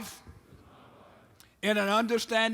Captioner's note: men repeat